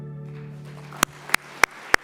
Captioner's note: audience applauds